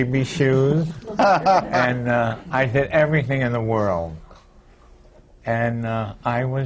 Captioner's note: laughter